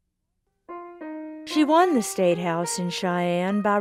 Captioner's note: voiceover